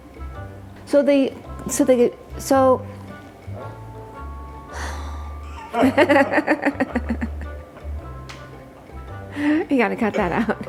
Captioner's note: laughs